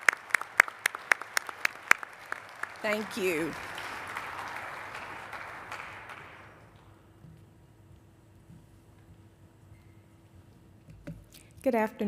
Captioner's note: applause